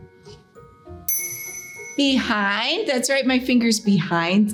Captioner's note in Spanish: sonido de campana